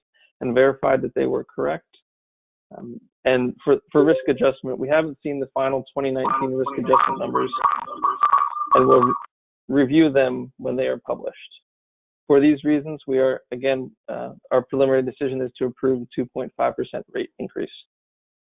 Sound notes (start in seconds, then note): 6.2 loud Echo/Feedback